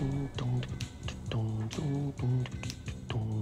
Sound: humming

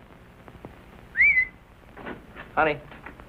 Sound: whistles

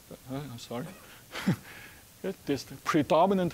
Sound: chuckling

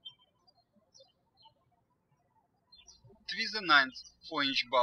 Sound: birds chirping

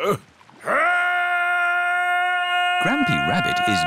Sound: shouting

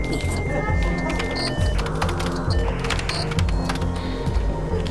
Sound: modem squeals

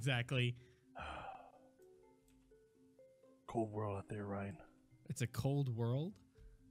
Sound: sighs

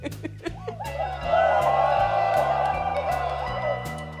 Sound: cheering

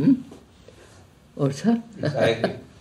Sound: laughs

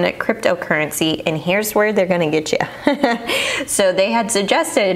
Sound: chuckles

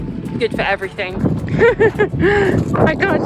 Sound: laughing

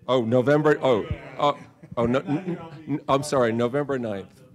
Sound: groaning

